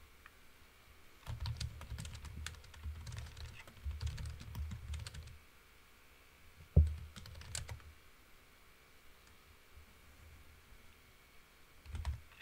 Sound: keyboard typing

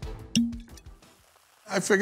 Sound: cork pops

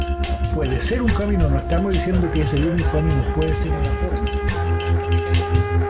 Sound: speaks in foreign language

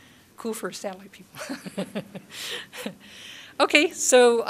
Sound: laughter

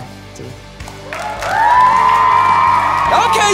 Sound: applause

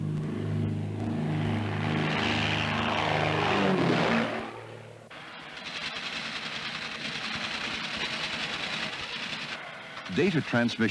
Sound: aircraft sounds

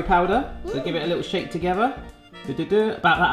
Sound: hums

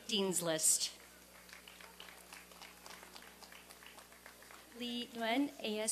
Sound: applause and cheering

